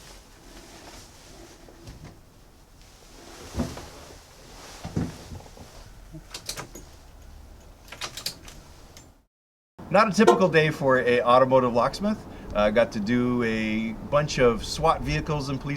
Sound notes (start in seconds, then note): 7.6 keys rattling